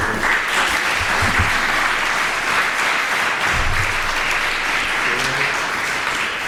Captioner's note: applause